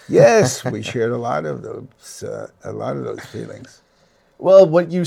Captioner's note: laughs